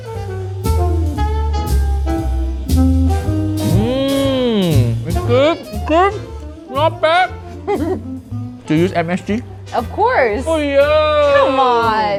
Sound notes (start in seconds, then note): 0.2 gentle music; 7.4 chuckling